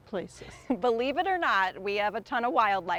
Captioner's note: chuckles